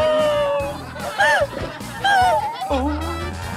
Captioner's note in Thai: ร้องไห้